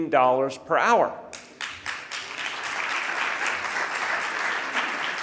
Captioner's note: audience applauding